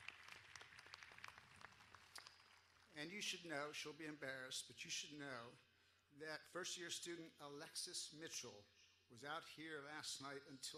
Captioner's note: applause